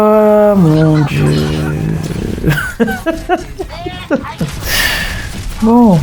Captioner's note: laughs